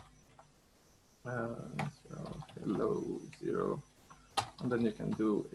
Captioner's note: mumbling to himself